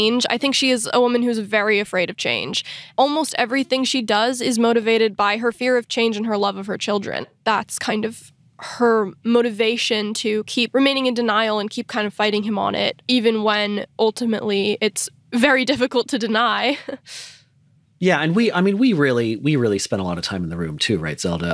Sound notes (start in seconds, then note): 16.3 chuckles